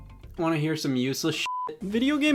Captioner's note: beep